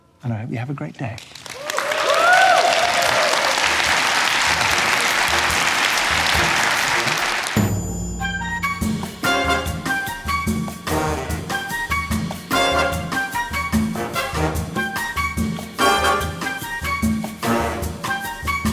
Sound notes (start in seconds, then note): 1.2 audience applauding; 8.6 bouncy music